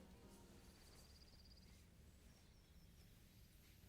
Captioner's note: birds chirping